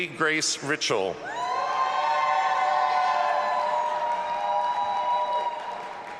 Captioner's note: audience applauding and cheering